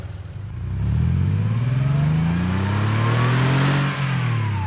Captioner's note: engine revs